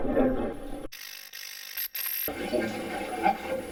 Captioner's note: static fizzing; static playback transmitting